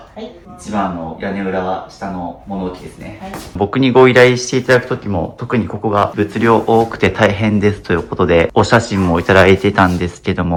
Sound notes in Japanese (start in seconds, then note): 4.1 鼻息